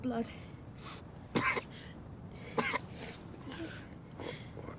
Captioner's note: Martin coughing